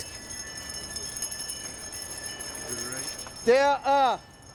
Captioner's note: bells ringing